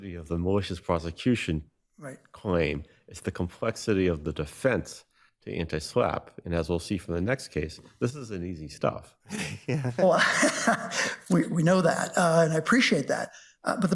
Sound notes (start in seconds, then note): 9.3 laughs